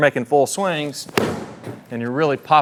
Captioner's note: club smacking